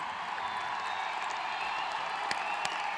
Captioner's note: applause